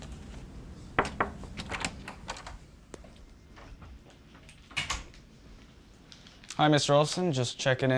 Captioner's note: knock on the door